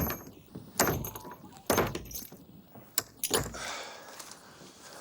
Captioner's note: chain rattling; John sighs